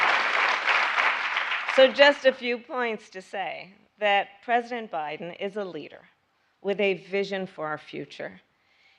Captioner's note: applause